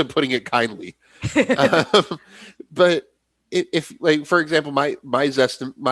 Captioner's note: laughter